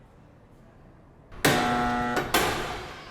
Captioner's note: buzzer